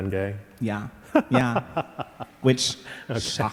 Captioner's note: laughing